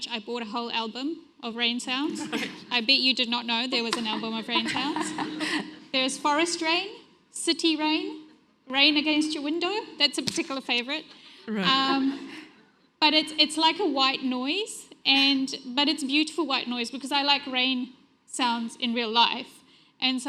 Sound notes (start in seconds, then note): 3.8 everyone laughs